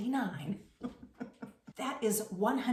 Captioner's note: laughing